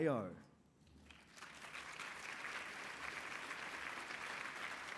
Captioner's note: applause